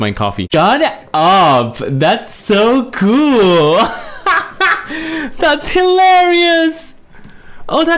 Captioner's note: laughs